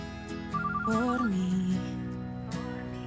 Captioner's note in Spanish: Suena el celular